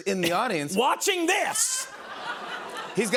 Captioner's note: laughter